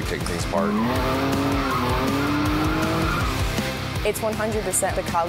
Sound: car engine accelerating

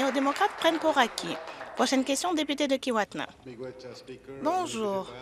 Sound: applause

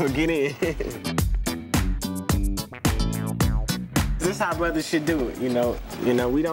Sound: laughs

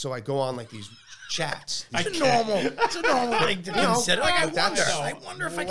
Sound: laughs

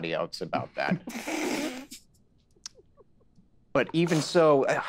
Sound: Isabella snickers

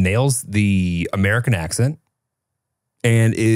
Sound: none

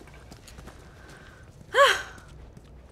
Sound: sharp sigh

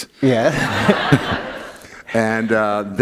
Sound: laughter

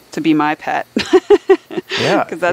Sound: chuckling

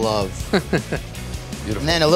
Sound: laughs

